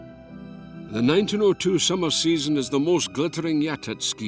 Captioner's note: Voz en off